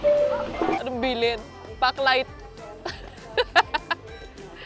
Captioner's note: laughs